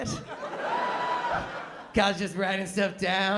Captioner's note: laughter